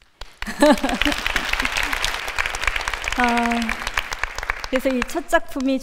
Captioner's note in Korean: 박수